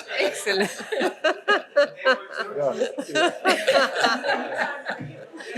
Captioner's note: laughter